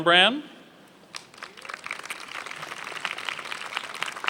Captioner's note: applause